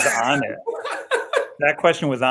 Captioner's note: laughter